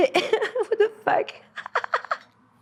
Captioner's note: laughs